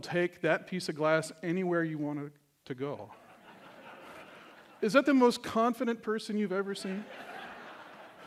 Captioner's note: laughter